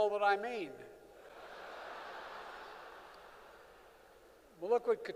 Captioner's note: laughter